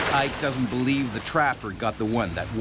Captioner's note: voiceover